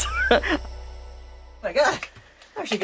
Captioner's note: laughs